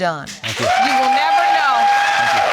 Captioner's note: audience cheering